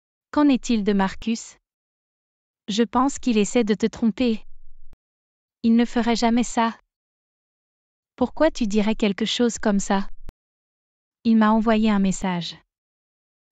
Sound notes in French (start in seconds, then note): none